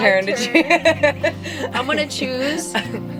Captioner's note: both laugh